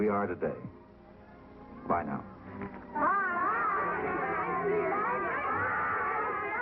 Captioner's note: crowd cheers